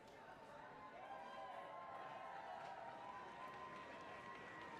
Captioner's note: audience applauding